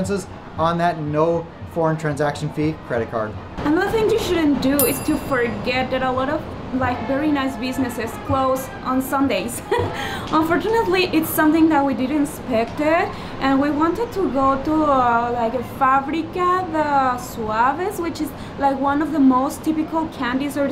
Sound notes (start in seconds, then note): 9.6 chuckling